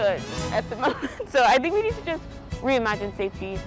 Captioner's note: laughs